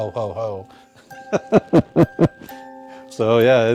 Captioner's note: laughing